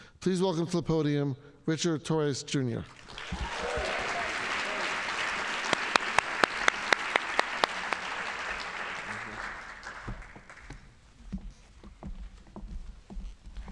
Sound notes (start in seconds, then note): 2.9 audience applauding